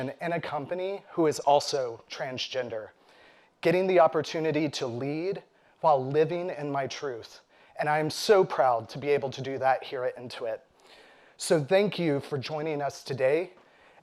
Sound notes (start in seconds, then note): none